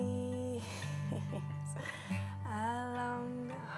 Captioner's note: risas